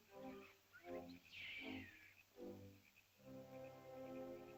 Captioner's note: soft ominous music; small animal screeches; soft ominous music